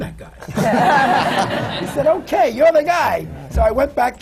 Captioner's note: laughter